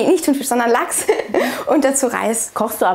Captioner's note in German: Lachen